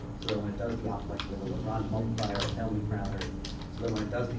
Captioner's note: speaker drowned out by static